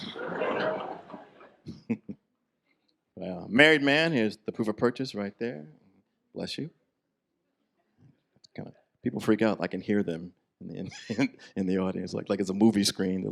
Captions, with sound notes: (chuckles) Married man. Here's the proof of purchase right there. Bless you. People freak out. I can hear them in the, in the audience, like, like it's a movie screen.